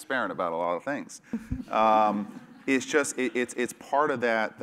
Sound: laugh

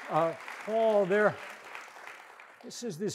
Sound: audience applauds

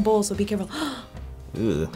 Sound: gasps

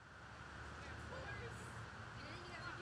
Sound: sound of a River, and inaudible conversation; sound of a River

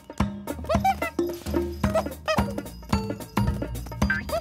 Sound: hooting

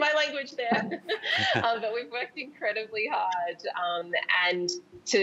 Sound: laughs

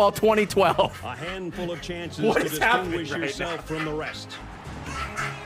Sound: cackling and dying in the back

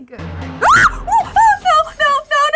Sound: screams

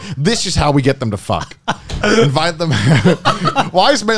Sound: laughing

